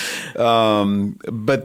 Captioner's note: chuckle